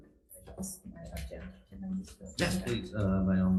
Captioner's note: speaks faintly